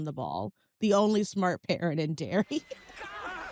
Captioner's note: chuckles